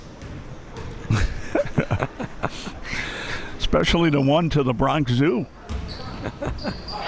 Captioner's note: laughing